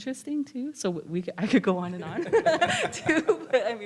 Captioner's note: laughs